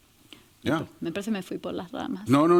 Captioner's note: speaking spanish